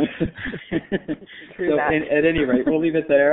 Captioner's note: laughter